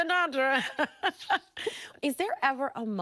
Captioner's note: laughing